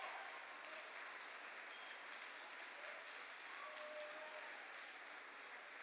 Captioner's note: cheers and applause